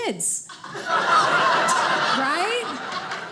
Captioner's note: audience laughing